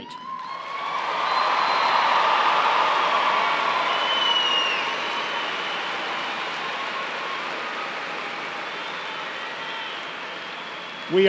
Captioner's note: cheers and applause